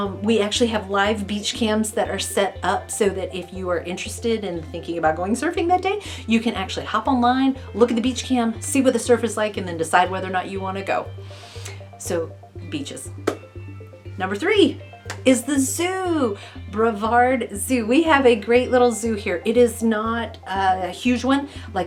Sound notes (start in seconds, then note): 15.0 clapping